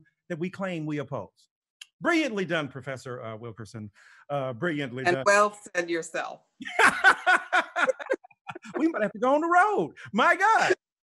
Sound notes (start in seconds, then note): 6.6 both laughing